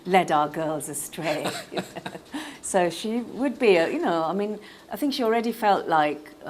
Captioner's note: laughter